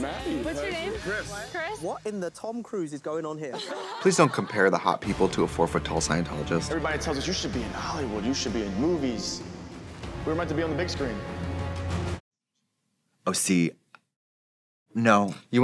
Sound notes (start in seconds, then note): 3.5 all laughing; 12.3 heroic music